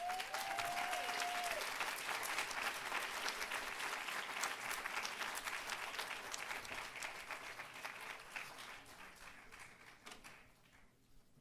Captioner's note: applause